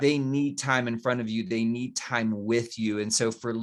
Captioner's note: none